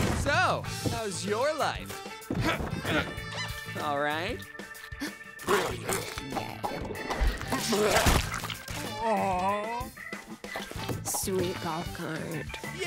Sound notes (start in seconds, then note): 4.8 gasps; 5.4 chomps